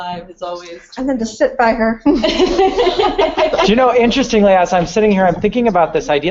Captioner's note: laughter